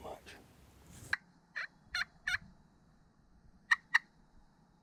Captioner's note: box call cackling